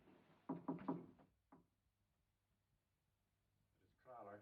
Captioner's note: knocking